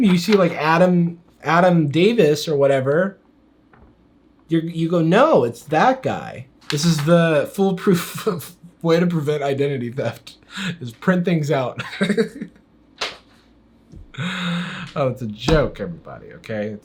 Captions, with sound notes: you see Adam Davis or whatever, You go, "No, it's that guy." This is the foolproof way to prevent identity theft. Just print things out. (laughs) Oh, it's a joke, everybody, okay?